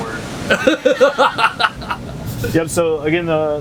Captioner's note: laughs